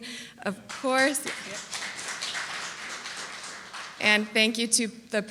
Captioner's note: applause